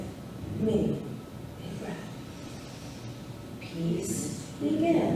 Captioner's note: inhales